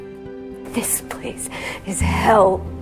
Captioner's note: voiceover